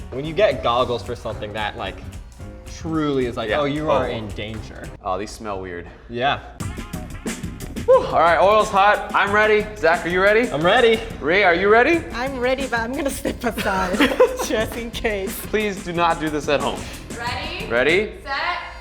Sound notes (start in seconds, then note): 6.9 lighthearted music; 12.9 both laughing